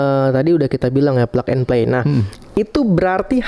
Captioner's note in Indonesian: berdehem